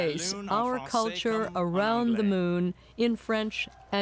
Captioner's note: speaking French